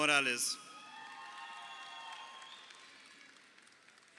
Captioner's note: crowd cheering